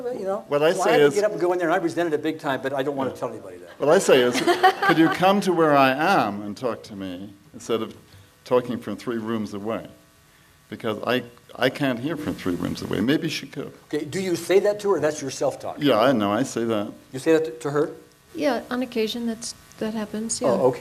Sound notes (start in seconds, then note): 4.2 laughs